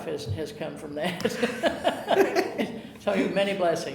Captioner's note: chuckling